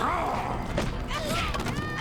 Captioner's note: grunting